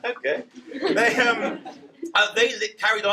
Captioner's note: laughter